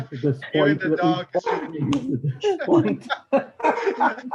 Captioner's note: laughing